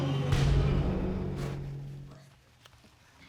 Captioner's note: audience gasping